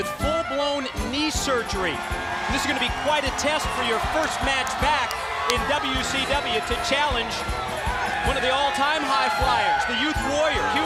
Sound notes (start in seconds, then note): 2.0 crowd cheering